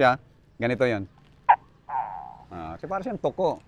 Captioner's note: mimics gecko sound